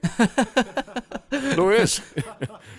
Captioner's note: risas